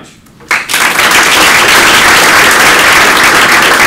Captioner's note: applause